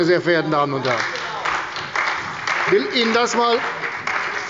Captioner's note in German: Beifall bei Abgeordneten der CDU